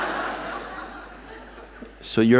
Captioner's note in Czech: Smích